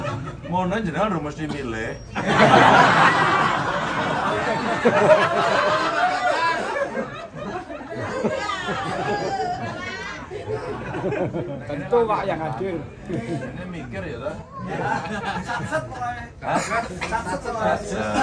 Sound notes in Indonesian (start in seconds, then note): 2.4 tertawa